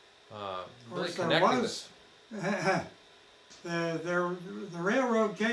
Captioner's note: chuckles